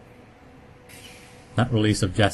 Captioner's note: gas release sound